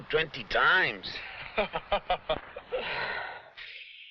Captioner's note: man laughs